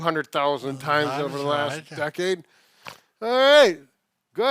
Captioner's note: speaking faintly